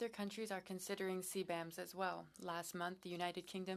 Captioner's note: speaking French